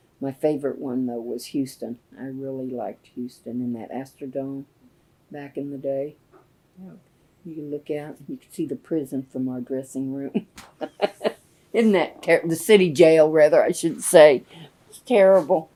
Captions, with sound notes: My favorite one, though, was Houston. I really liked Houston and that Astrodome, back in the day. You could look out. You could see the prison from our dressing room. (Laughs) Isn’t that terrible? The city jail, rather, I should say. That’s terrible!